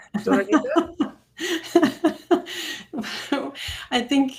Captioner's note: laughing